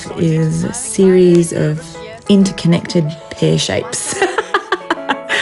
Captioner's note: laughs